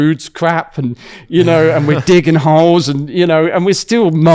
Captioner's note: laughs